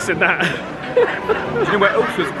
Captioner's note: laughing